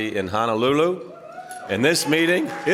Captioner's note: cheering